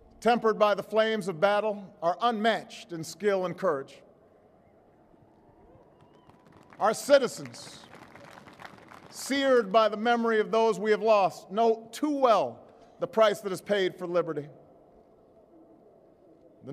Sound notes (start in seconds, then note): 7.4 applause